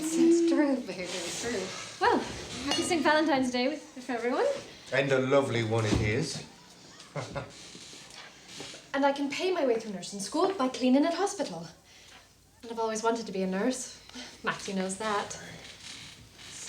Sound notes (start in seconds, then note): 6.4 chuckling